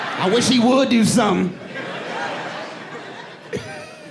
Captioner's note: audience laughing; chuckles